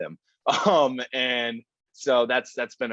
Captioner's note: laughs